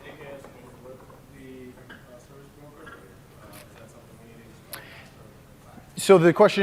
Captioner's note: off mic